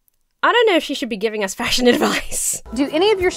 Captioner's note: laughs